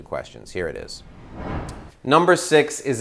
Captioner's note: whooshing sound